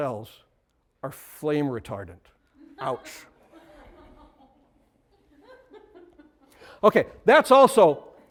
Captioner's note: laughter